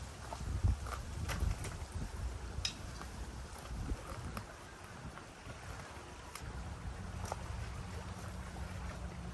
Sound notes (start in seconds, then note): 5.5 waves lapping